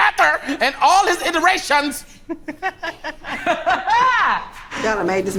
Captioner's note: laughs